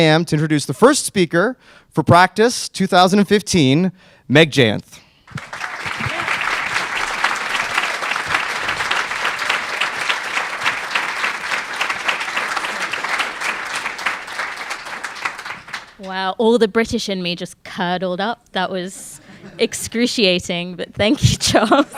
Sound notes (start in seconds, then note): 5.7 crowd clapping